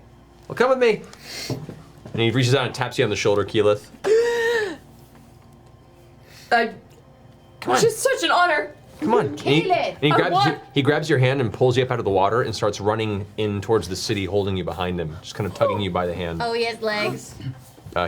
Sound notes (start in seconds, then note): 4.1 gasp